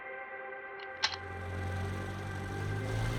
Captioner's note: bullet clacking; propeller whirring